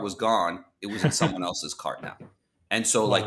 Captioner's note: laughs